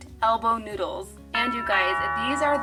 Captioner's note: doorbell rings